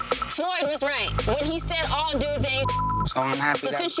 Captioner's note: beep